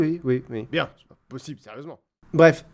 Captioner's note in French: la voix se fait moins forte